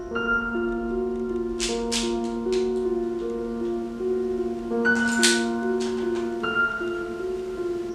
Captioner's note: cocks Gun